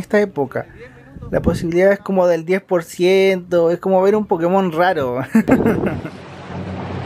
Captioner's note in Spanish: risas